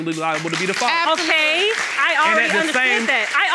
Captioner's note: audience applauding